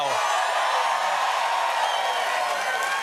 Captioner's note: cheers and applause